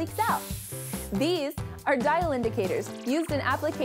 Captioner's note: hissing sound